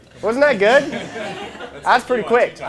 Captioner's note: laughing